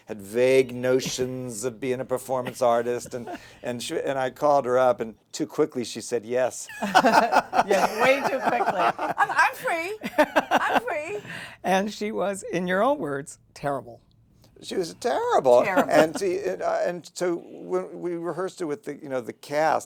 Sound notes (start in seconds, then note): 6.7 laughter